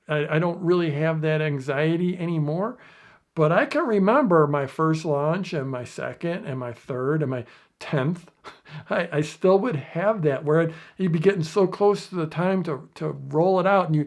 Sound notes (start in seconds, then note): 8.3 laughs